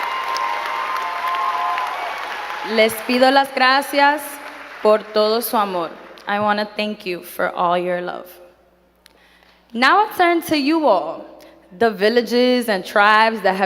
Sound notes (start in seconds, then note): 3.0 speaking in foreign language